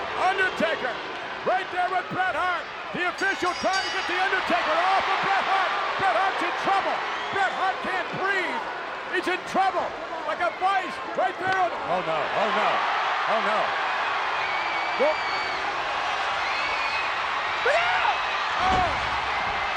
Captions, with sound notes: Undertaker right there with Bret Hart. The official trying to get The Undertaker off of Bret Hart. Bret Hart's in trouble! Bret Hart can't breathe! He's in trouble. Like a vice right there on, oh no. Oh no. Oh no. (crowd cheering) Look out! Oh.